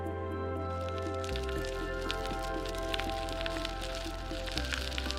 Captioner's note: bicycle tires crackles